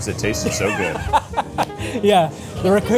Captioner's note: laughs